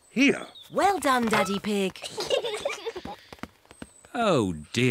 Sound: peppa and george giggle

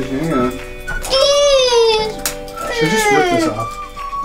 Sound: silly noises

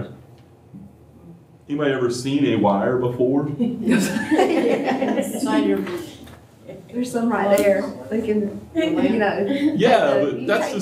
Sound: laughter

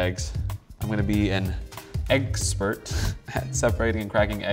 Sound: chuckles

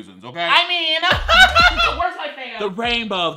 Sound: laughs

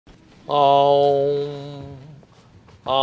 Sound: chanting

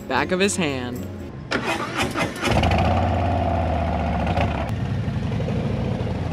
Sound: motorcycle engine roaring

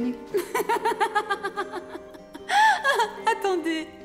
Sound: Elizabeth giggles

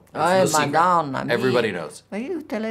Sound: speaking in Italian

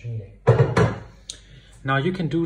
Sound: utensil clattering

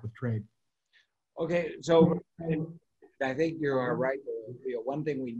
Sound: voice muffling

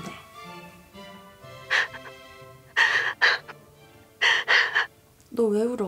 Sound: crying noises over the phone

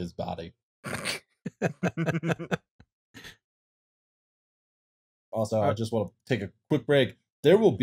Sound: laughter

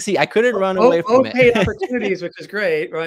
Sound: laughing

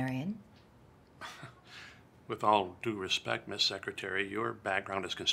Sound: scoffs

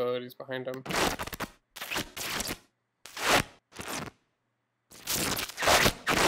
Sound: loud fabric rustling and tearing

